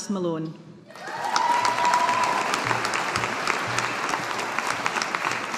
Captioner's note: audience applauding